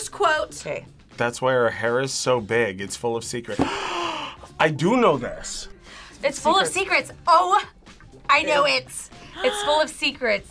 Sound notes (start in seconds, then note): 3.6 gasps